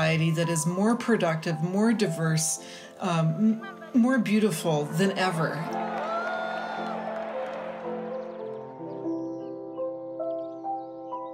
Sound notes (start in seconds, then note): 5.6 cheering; 8.0 birds warbling